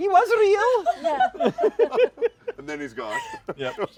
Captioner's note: laughter